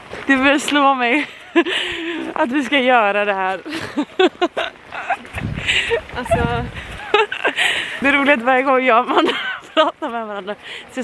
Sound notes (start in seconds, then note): 3.7 laughter